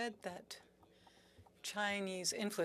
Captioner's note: speaking French